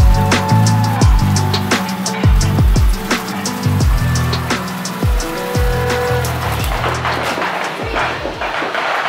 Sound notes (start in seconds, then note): 5.5 horns & firework sounds